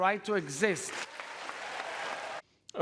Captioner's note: cheering and applause